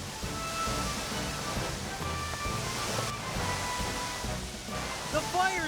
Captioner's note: water Hissing